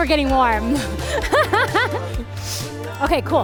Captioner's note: laughs